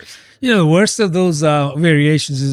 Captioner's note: uh